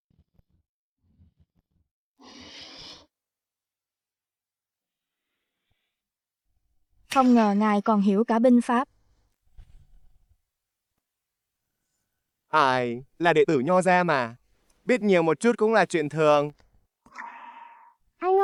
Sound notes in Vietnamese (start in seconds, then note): 2.2 khịt mũi